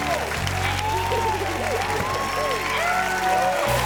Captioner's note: giggles